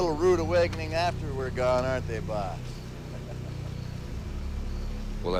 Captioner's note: laughs